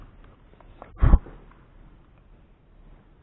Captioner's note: blowing